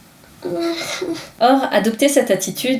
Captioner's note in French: gémissement